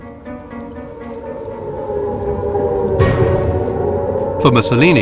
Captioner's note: air-raid siren wails